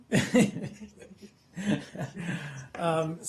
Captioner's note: laughter